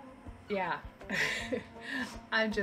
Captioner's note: chuckle